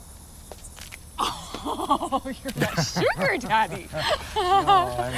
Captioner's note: Chris laughs